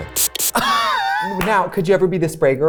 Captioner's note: laughs